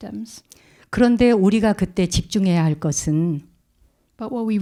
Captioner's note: speaking in Korean